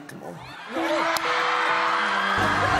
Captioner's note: crowd cheering / laughing